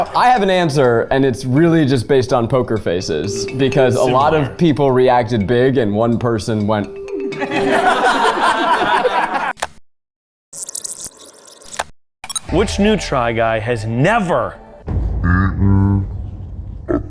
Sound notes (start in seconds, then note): 7.3 all laughing; 10.5 tape screeching